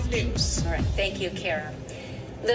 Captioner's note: on TV